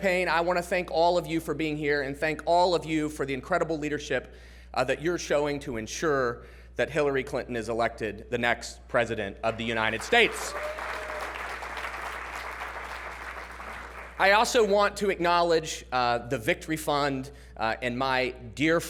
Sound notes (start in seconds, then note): 9.5 applause